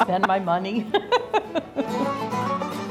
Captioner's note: laughs